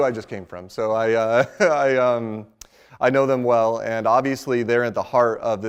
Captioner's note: laughs